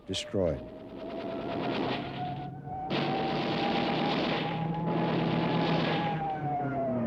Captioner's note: plane engines roar; gunfire